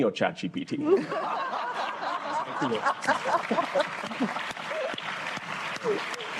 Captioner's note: laughter, applause